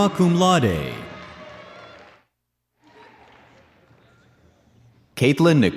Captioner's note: audience cheers and applauds